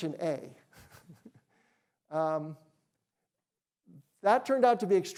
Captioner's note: chuckles